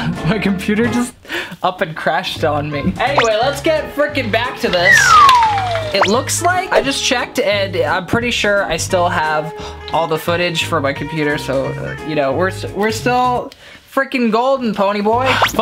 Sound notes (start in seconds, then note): 4.8 slide whistling